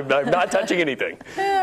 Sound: laughter

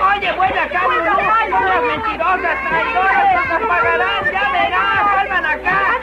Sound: indistinct chatter

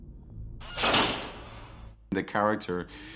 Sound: doors clicking

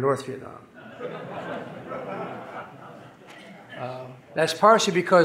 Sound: audience laughing

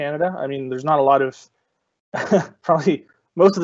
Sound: chuckling

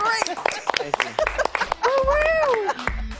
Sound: laughing

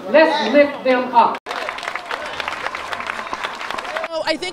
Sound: applauding

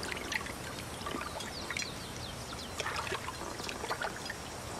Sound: water sloshes

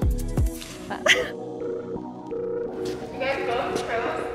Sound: laughing

